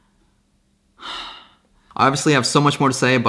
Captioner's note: sighs